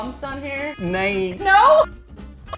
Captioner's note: speaking in Hindi